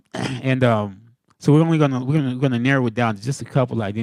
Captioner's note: laughing